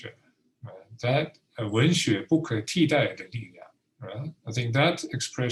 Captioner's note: speaking Mandarin